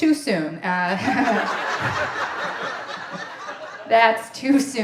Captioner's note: audience laughing